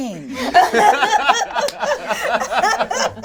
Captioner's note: all laugh